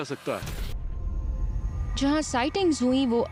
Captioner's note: narrating